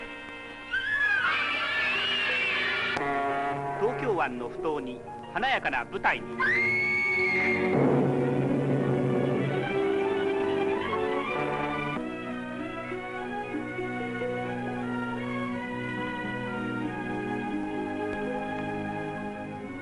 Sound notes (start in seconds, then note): 0.6 children screaming; 6.4 woman screaming; 9.5 dramatic music; 13.2 gentle music